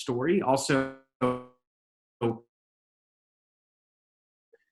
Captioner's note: audio drops out